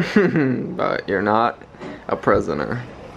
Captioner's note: chuckles